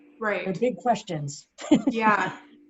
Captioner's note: laughs